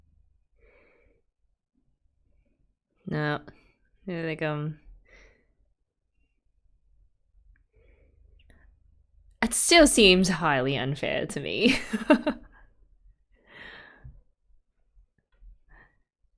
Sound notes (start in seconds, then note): 11.6 laughs